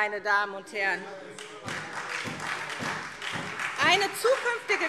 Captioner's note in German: Beifall SPD